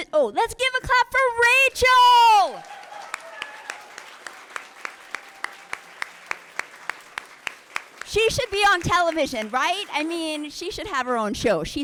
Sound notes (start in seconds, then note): 1.8 audience clapping and cheering